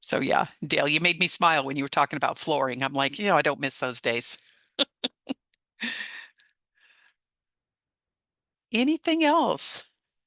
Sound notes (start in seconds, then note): 4.8 laughs